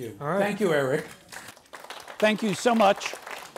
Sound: audience applauds

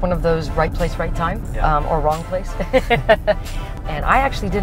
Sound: laughs

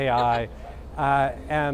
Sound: laughs

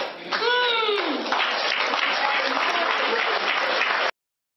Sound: people clapping

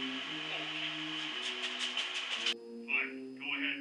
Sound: shuffles awkwardly

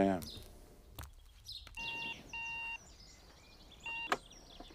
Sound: phone beeping

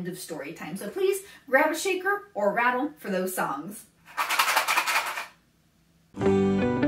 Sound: shakes rattle; transition Music

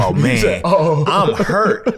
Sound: laughs

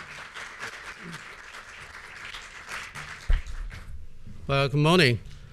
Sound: applause

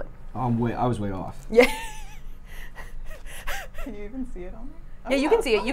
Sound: laughing

